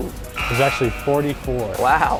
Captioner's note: error Buzzer